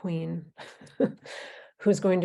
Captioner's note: laughing